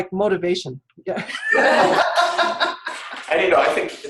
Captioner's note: laughter